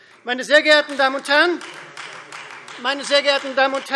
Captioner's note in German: Beifall Freie Demokraten